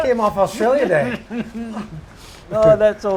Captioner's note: laughs